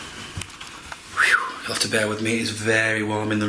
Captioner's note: whistles